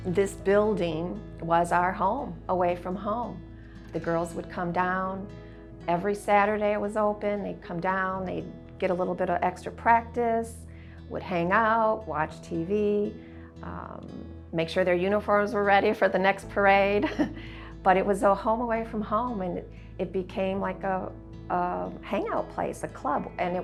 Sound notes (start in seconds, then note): 17.3 laughs